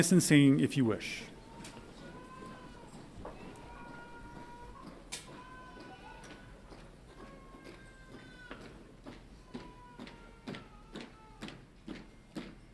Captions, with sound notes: Please join us in singing if you wish. (boots thudding)